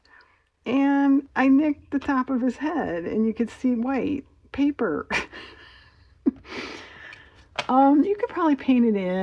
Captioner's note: laughs